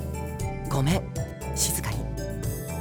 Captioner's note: whisper